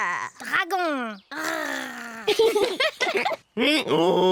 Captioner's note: roars; both giggle; brays